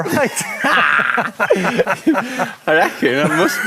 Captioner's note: both men laugh